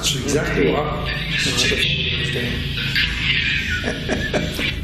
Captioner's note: recorded talking